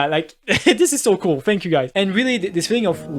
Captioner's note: chuckle